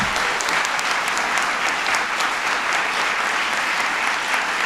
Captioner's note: applause